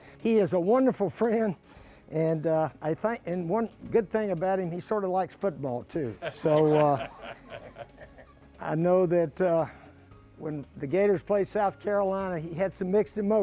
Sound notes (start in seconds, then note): 6.1 laughter